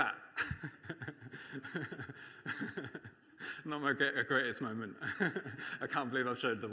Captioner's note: laughs